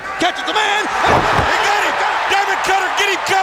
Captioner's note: audience cheers